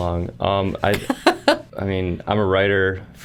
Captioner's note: laughing